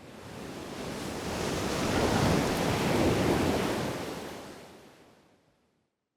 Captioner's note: waves crashing